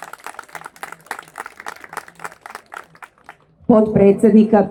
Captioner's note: applause